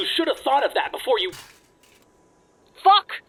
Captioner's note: objects Clatter